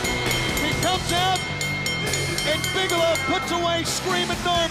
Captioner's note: bell ringing